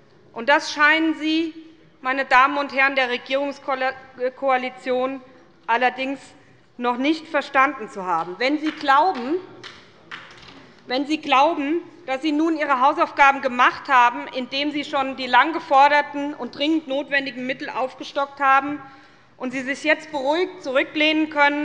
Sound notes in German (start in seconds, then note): 8.7 Beifall bei der SPD